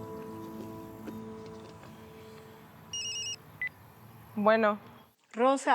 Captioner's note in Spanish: Suena celular